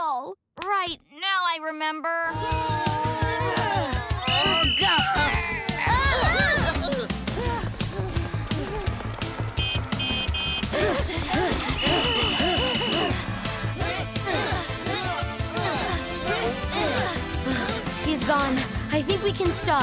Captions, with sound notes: Right, now I remember. [grunting] [whistling] [groaning] [honking] [honking] [grunting] [sighing] He's gone. I think we can stop.